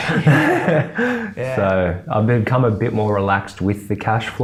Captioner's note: laughs